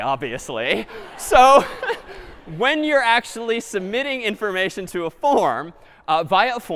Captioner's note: laughter